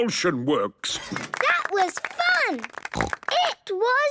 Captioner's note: applause